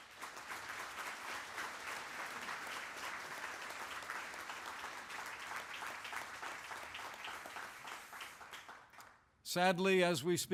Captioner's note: applause